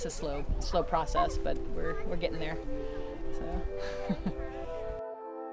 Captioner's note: laughs